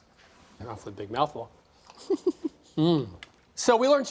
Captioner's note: laughs